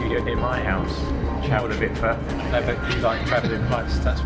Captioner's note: haha